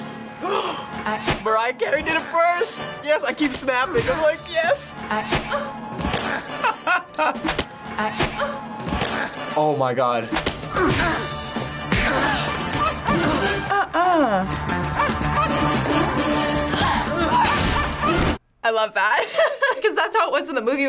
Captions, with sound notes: - (gasps) Mariah Carey did it first! Yes, I keep snapping. I'm like, (snaps) "Yes!" - (laughs) - Oh my god. - Uh-uh. - (dog barking) - I love that. (laughs) 'Cause that's how it was in the movie